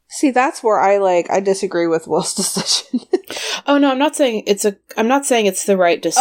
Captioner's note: laughs